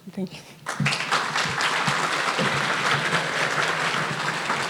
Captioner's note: audience applauding